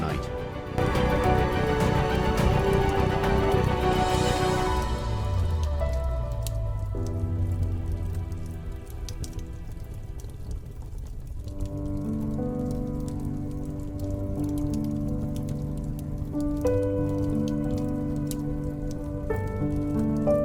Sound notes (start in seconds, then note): 0.9 inspiring orchestral music; 7.2 campfire crackling; 11.8 soothing piano music